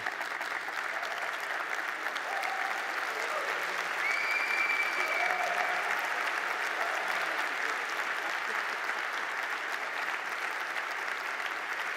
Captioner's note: applause